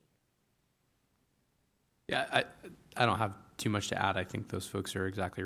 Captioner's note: none